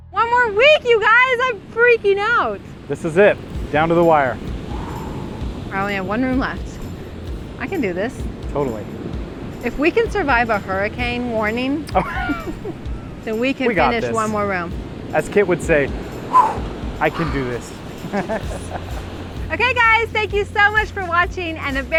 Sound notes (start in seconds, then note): 4.4 exhales; 11.9 laughter; 16.2 exhales; 18.0 laughter